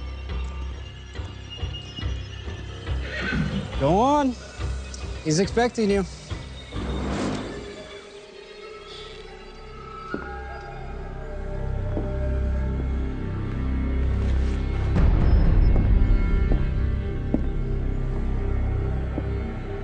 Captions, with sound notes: (dramatic music) (horse neighing) - Go on. He’s expecting you. (dramatic music) (boots clopping)